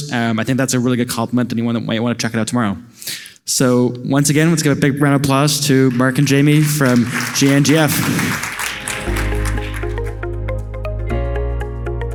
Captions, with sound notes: I think that's a really good compliment and you might want to check it out tomorrow. So once again, let's get a big applause to Mark and Jamie from GNGF. (audience applauding) (soft upbeat music)